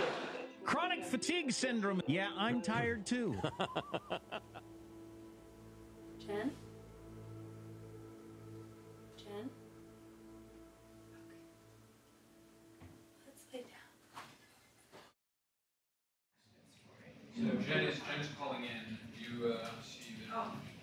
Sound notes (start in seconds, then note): 3.2 laughing